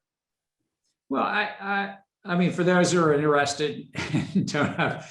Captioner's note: laughs